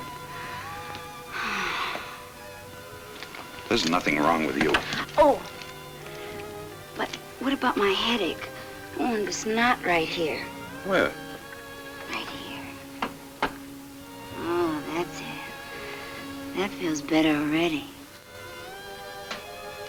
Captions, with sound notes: Again. (Ellen sighs) There's nothing wrong with you. - Oh, but what about my headache? Oh, and this knot right here? - Where? - Right here. Oh, that's it, that feels better already.